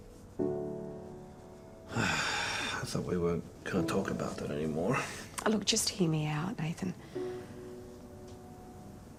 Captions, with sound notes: (Nathan exhales deeply) I thought we weren't gonna talk about that anymore? Look just hear me out Nathan.